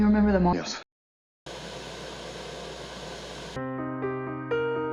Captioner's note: Static